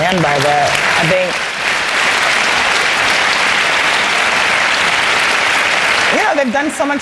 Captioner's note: applause